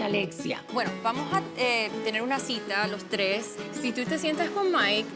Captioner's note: speaks Spanish